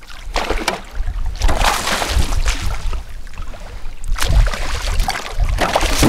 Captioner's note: splash